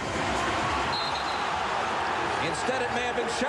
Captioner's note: whistle blows